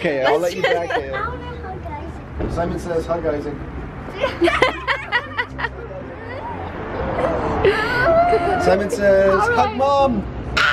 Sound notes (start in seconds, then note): 4.2 they laugh